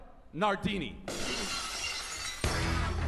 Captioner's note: glass shatters